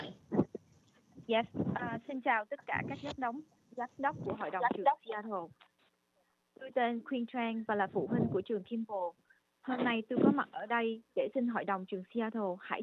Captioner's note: speaks non-English language